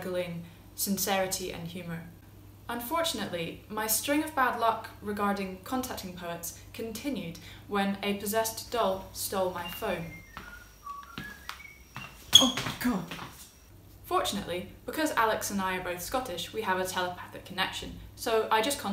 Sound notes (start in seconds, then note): 9.6 whistling